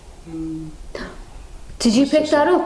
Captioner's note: quiet moan